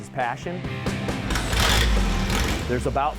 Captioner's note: motorcycle revving